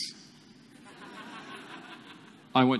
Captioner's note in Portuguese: Risos